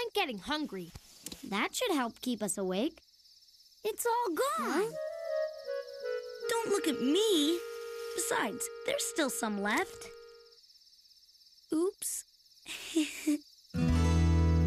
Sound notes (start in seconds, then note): 12.7 giggles